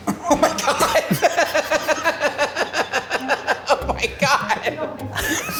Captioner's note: laughs